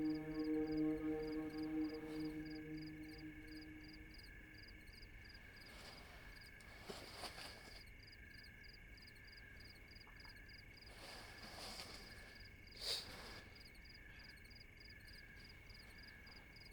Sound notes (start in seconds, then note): 6.6 crickets chirping